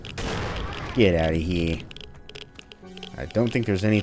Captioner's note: new yorker voice